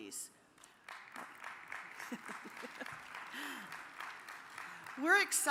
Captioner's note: audience applauds